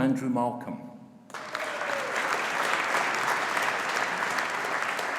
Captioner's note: audience applauding